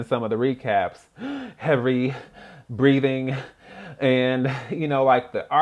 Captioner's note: gasp